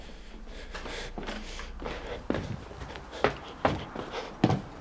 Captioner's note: heavy breathing